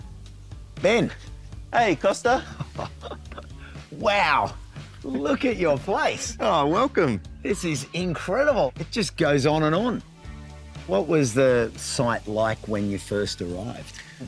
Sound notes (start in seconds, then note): 2.3 laughs